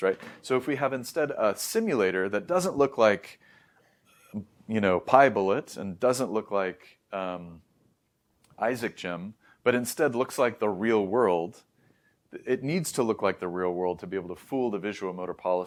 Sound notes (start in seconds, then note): 3.9 coughs slightly; 4.4 clears throat softly